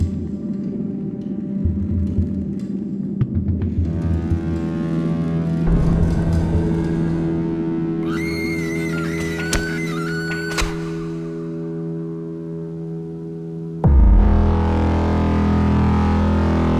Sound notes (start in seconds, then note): 5.5 ghoulish whispers; 8.0 distant screaming